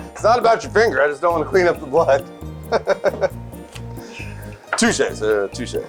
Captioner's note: laughs